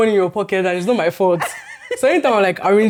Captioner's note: laughs